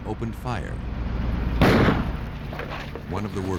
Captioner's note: gun shot